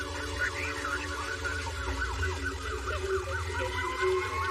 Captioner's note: faint radioio chattere